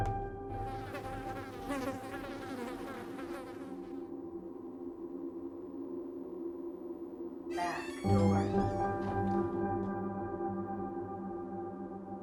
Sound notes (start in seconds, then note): 0.7 fly buzzing; 10.0 door creaking open